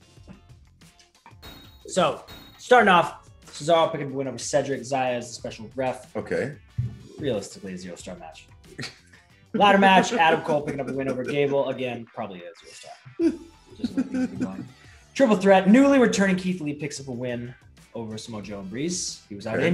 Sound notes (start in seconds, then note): 9.6 laugh